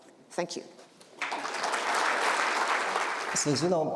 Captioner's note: audience applauding